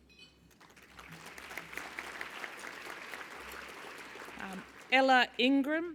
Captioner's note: applause